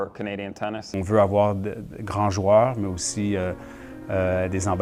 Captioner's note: speaking French